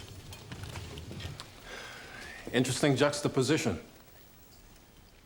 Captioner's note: sighs